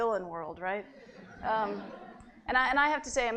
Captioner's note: laughter